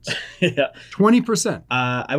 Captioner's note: chuckles